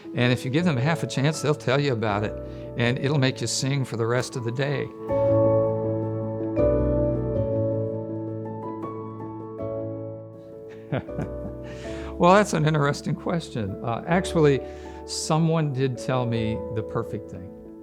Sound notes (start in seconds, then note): 10.9 laughs